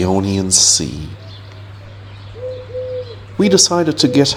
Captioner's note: birds chirping